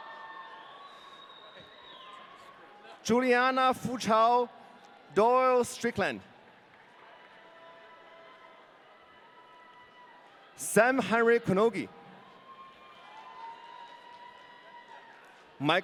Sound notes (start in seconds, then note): 7.0 audience cheering; 12.4 audience cheering